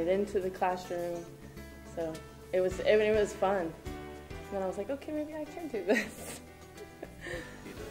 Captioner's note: laughs